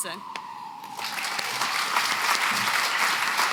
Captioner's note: applause